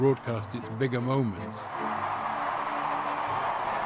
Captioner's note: cheering